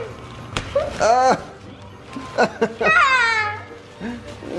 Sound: laughing

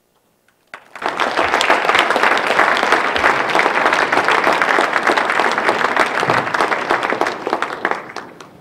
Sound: applause

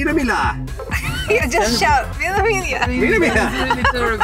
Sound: laughs

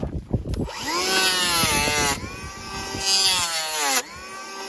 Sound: planer whizzing

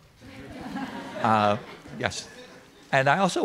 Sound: audience laughing

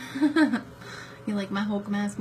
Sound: laughs

